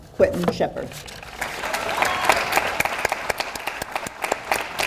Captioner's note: audience applauds